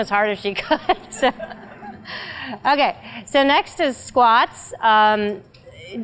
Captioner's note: laugh